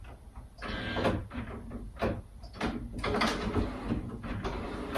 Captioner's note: photocopier whirs